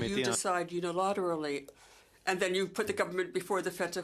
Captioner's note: speaking French